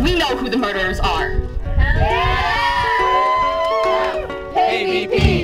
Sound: cheers

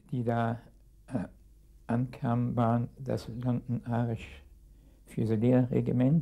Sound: speaking in a foreign language

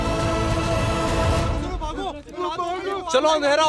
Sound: clamouring

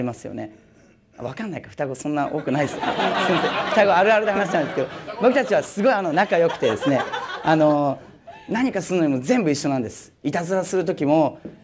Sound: laugh

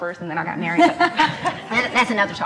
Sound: laughs

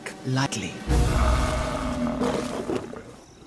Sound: snarling

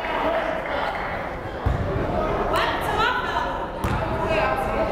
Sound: crowd chattering

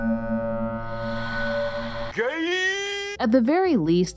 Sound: meme yelling 'gaaaaay

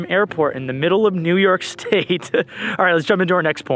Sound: laughs

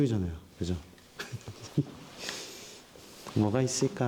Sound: laughing

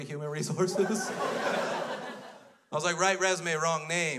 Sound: crowd laughs

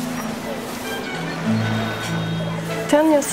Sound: lively music; pedestrian chatter

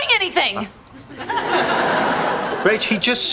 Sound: audience laughing

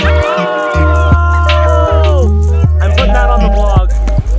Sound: cheering

